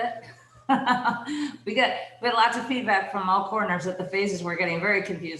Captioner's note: laughs